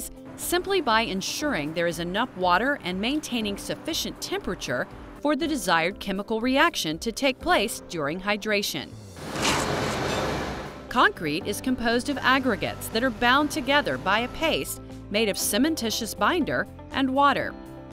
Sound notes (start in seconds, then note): 9.2 concrete scooping